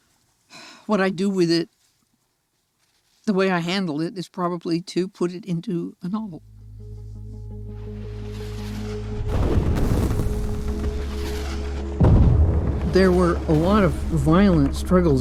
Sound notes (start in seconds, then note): 9.2 explosões estrondosas